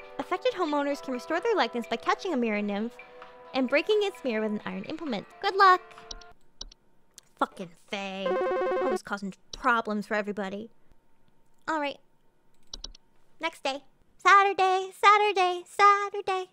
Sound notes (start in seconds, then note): none